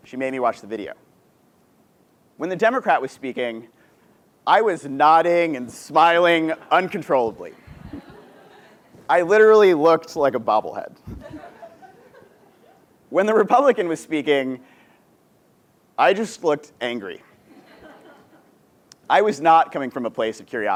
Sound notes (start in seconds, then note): 7.5 laugh; 11.0 laugh; 17.5 laugh